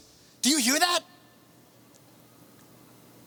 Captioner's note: silence